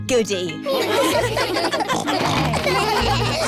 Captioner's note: laughter; snorting